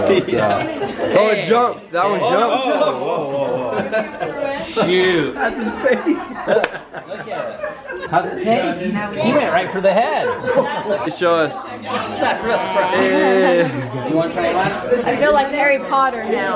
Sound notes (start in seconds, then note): 11.9 laughing